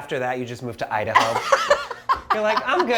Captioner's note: Marcela laughs